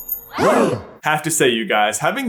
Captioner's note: gasps!